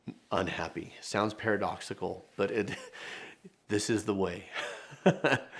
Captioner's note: laughs